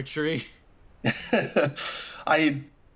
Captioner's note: Arkat Laugh